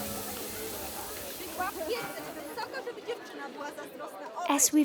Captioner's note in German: brutzelndes Fleisch; undeutliches Gerede